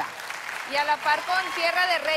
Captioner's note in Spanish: Aplausos